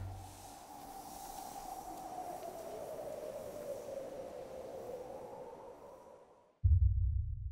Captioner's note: wind howling